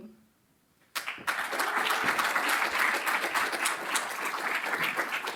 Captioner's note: applause